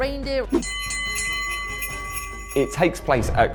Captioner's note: bell ringing